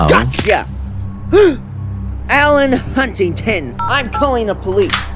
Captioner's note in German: Keuch